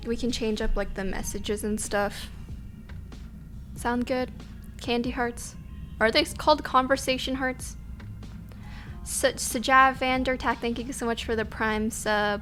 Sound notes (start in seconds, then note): none